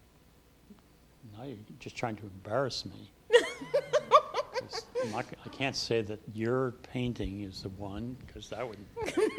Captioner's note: laughing